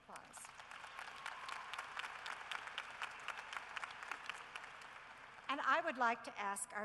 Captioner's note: cheering and applause